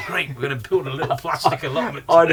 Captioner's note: laughs